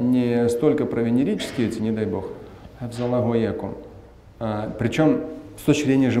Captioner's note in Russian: говорит на арабском